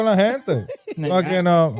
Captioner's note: speaking In Foreign Language